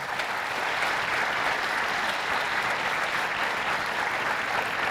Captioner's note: audience clapping